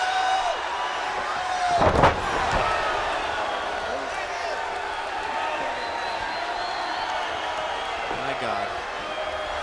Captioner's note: crowd chatter